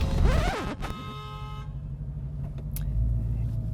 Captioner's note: record scratch; cars horns beeping